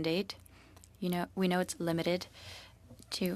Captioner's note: speaking French